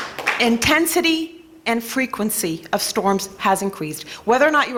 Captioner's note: applause